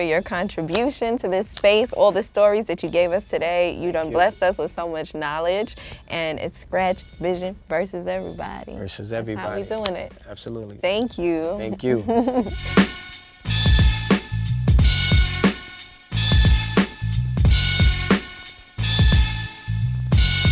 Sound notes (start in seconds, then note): 11.7 chuckling; 12.3 uptempo hip-hop beat